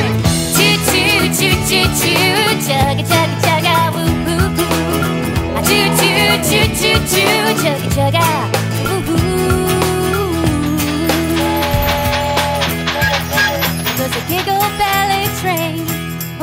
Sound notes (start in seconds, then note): 11.6 train chugs; 11.6 train whistle blows